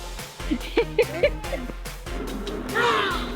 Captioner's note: laughing